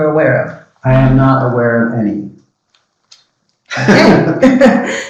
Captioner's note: laughs